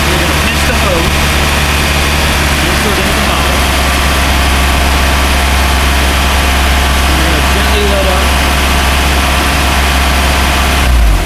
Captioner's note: Sound of motor running and the revs slowing down as Seafoam is added